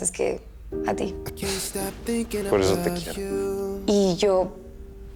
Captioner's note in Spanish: Ríe